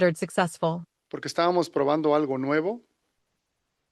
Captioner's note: non-english speech